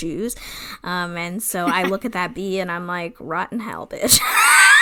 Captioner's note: laughs